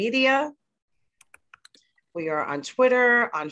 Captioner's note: typing noises